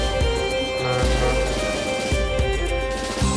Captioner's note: ferry horn blares